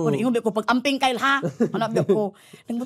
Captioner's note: chuckles